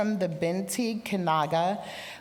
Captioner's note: speaking indigenous language